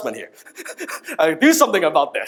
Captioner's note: laughs